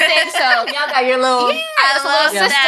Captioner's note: ladies laughing